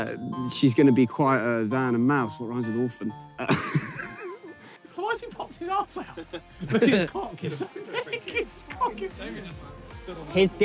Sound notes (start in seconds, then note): 3.4 laughs; 6.1 players laugh